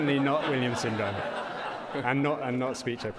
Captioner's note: audience laughs